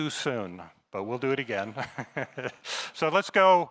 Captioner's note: laughs